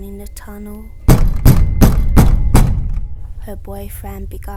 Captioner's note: banging sound